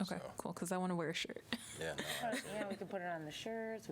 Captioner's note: laughter